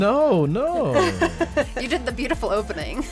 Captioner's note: woman laughs